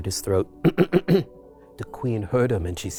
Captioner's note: Yankl clears throat